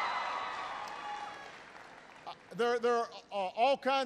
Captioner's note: applause